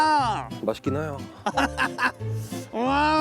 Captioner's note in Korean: ㅎㅎㅎㅎㅎㅎㅎ